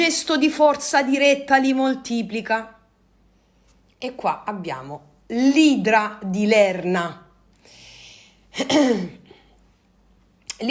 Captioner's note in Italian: schiarire la voce